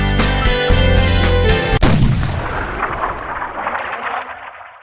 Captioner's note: exploding